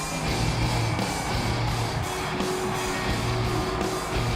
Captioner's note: crowd cheering